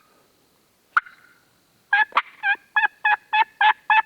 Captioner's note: turkey call